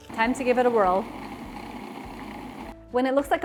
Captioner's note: gentle whirring